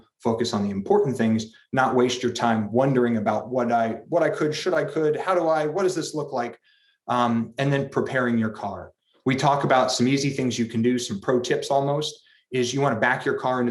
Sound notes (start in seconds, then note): none